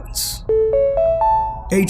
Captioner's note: notification ping